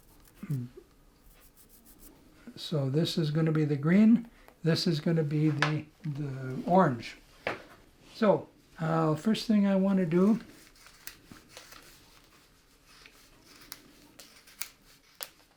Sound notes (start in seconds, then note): 10.7 wood scraping